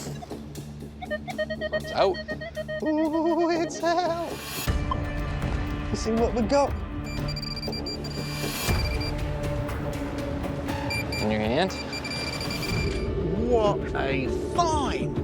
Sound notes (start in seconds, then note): 0.1 metal detector beeping; 7.0 pinpointer beeping